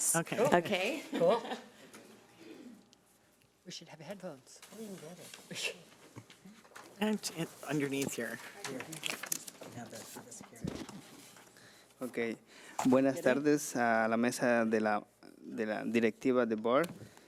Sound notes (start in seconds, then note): 10.5 speaking off mic; 13.1 man speaking foreign language